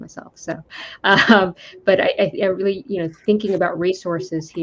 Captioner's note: laughs